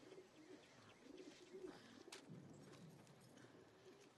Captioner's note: pigeons cooing